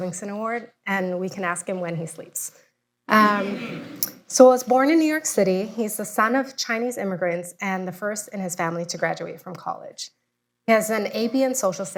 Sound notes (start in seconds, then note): 3.0 laughter